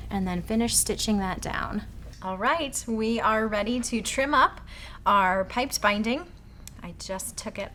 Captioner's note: none